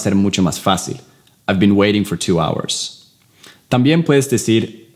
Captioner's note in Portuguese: Inglês